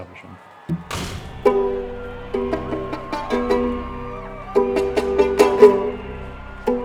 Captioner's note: cheering overlapping musical notes